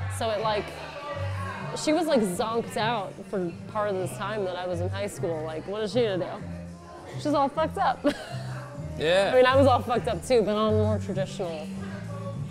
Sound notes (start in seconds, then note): 8.0 laughs